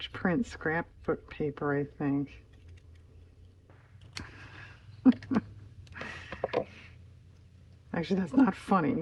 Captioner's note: laughs